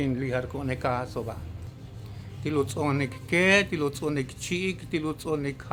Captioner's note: continues speaking in Mayan